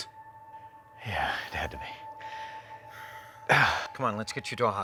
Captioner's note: grunting